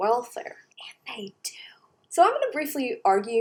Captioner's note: whispers